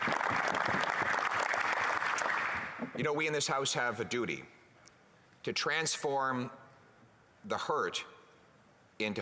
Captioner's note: applause